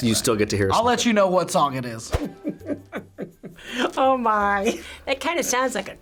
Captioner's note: chuckles